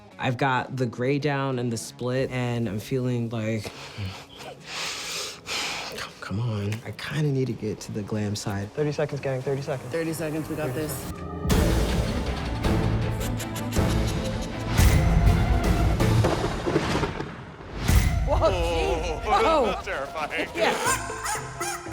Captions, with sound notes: - I've got the gray down and the split and I'm feeling like, come on, I kind of need to get to the glam side. 30 seconds, gang. 30 seconds. - 30 seconds, we got this. [suspenseful music] [witch cackling] - Whoa, Jesus. - Oh terrifying.